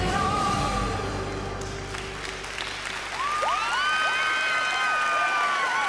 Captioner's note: cheers and applause